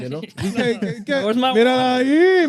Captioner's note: non-english Speech